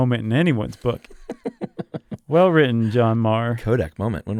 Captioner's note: laughs